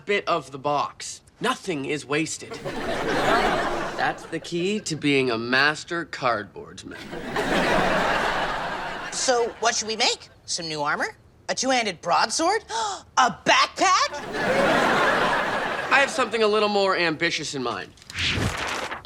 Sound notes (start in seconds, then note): 2.5 audience laughing; 7.0 audience laughing